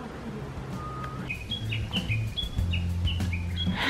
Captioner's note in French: chant d'oiseaux